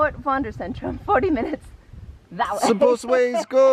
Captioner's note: chuckles